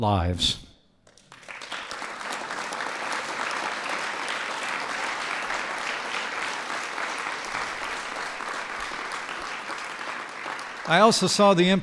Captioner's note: applause